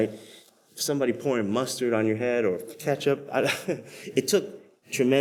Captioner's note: laughs